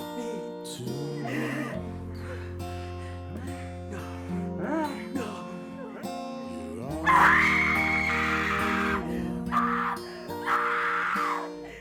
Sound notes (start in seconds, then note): 2.2 gasping; 5.0 Tina whimpering; 7.0 shrieks